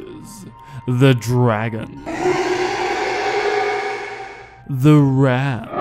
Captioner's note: roar